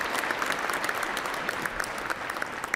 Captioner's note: applause